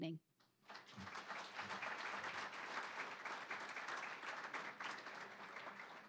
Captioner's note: applause